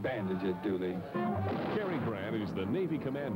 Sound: explosion

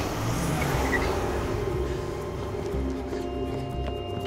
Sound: breathing hard

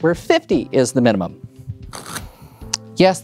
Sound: cards riffling

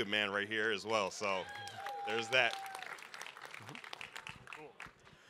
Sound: audience applaud, cheer

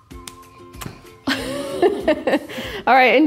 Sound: laughing loudly

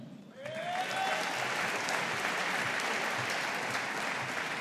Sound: audience applauding

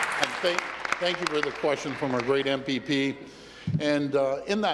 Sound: applause

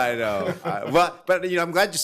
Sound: laughing

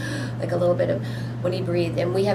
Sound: difficulty breathing

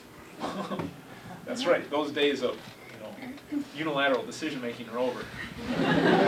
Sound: chuckles; class laughs

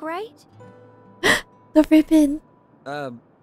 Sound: gasp

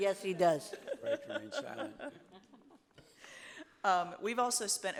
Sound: laughs

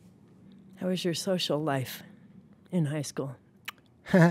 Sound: laughs

